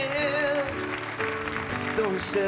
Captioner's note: audience applauding